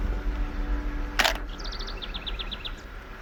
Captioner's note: camera clicking; bird tweeting